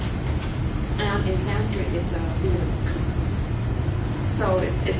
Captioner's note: non-english